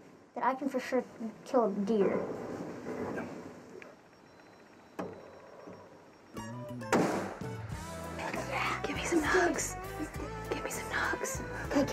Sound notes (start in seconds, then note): 6.9 gunshot